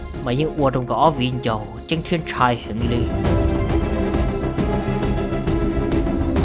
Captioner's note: sound of climbing